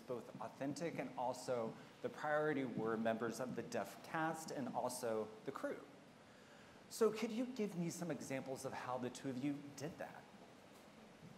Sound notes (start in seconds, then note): none